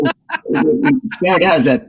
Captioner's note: laugh